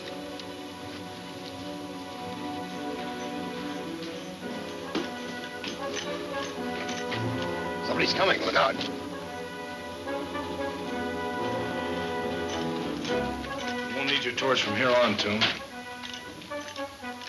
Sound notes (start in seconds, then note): 2.5 spurs jingle; 9.2 suspenseful music